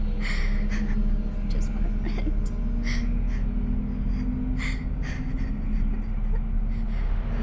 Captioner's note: sobbing